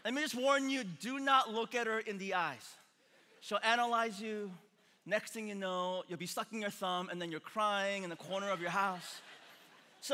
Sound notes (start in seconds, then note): 2.4 congregation laughing; 8.0 congregation laughing